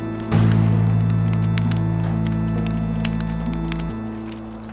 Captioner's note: flames crackle